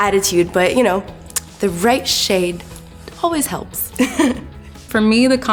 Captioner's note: laughs